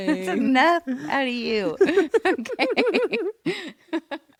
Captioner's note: laughs